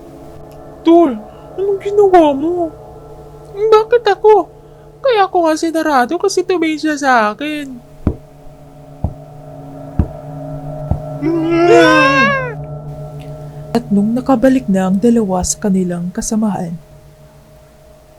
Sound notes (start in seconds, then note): 8.0 knock; 10.0 knock